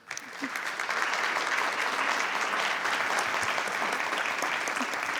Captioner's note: audience applauding